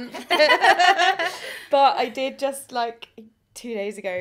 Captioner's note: laughter